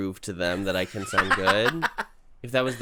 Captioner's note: cackles